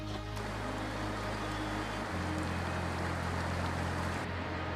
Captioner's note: water whooshing